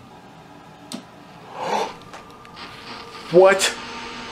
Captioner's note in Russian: старое радио включилось